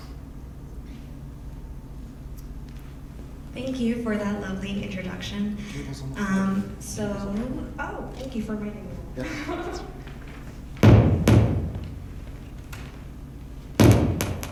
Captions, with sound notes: - Thank you for that lovely introduction. - Cable's on the floor. - Oh, thank you for warning me. (laughs softly)